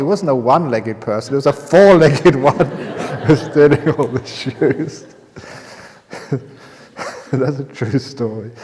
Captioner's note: laughter